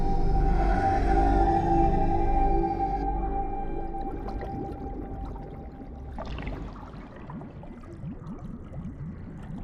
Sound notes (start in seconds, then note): 4.2 water splashing